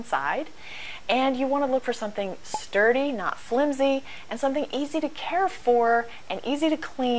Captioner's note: pop